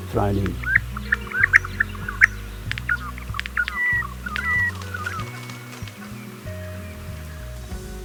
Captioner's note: sound of Regent Honeyeater bird call